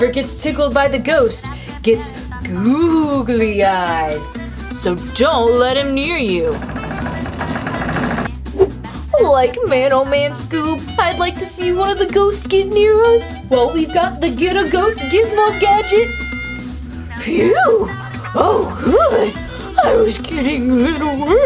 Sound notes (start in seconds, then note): 5.8 creaking; 14.7 trumpet horns